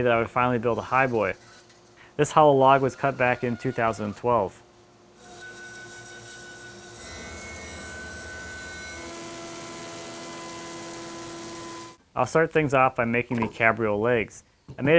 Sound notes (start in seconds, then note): 5.2 high pitched sawing; 9.3 mild vibrations